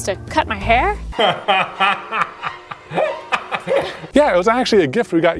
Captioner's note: laughing